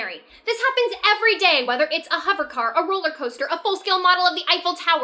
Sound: none

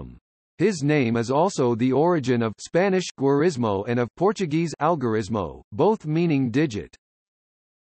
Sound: Spanish

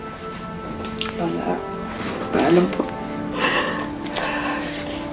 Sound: exhales

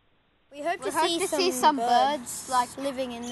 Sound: some birds

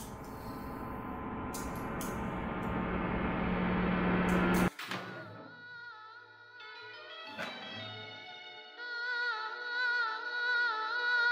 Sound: radio in background

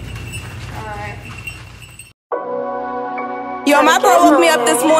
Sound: bells jingle

